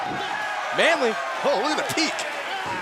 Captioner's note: cheers & applause